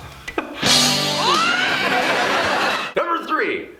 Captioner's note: rock music; audience laughing